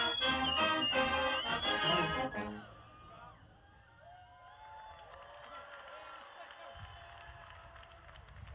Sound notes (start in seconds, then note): 4.3 audience cheers